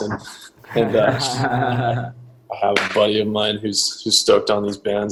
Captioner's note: laughs